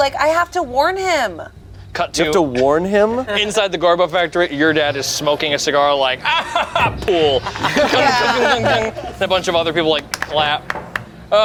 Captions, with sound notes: Like, I have to warn him. - Cut to- - You have to warn him? - Inside the Garbo factory, your dad is smoking a cigar like (chuckles) Pool. (everyone laughs) A bunch of other people like clap.